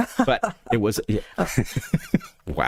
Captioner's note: laughing